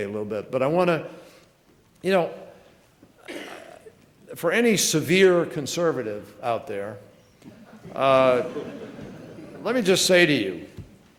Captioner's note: laughter